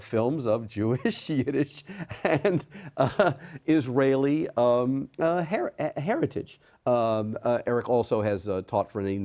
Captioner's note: chuckles